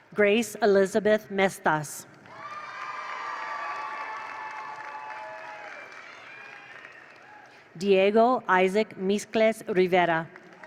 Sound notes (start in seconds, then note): 2.2 attendees cheer; 2.2 attendees applaud; 10.3 attendees applaud; 10.4 attendees cheer